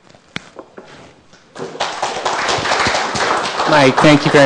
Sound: applause

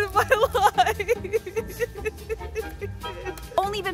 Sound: crying

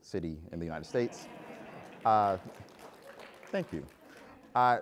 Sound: applause

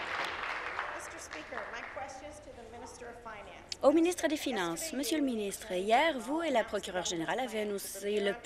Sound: some Applause

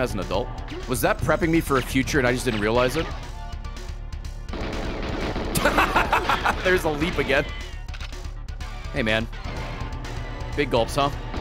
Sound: laughs

